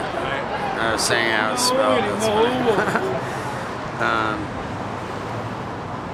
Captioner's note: laughs